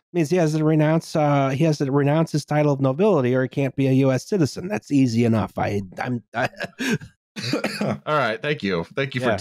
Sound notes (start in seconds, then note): 5.9 laughs